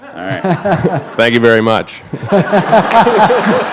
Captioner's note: laughter